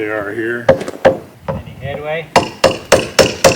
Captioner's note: hammer sounds